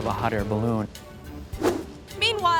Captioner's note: playful music; air whooshes